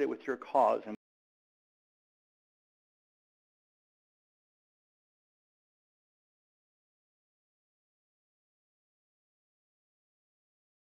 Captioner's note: audio Cut